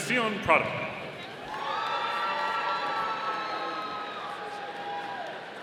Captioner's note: audience cheering